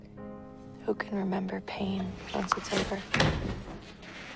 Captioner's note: voiceover; June's knee cracks